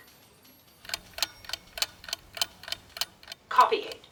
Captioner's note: tick tick tick